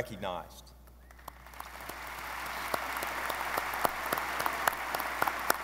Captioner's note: audience applauding